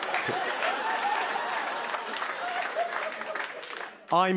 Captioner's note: cheers and applause